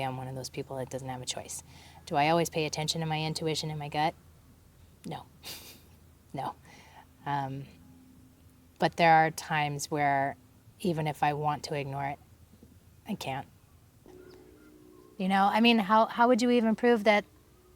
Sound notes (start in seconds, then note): 5.4 chuckles